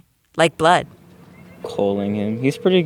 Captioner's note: soundbite of ringback tone